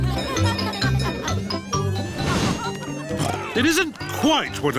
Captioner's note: cheerful jingling; oinks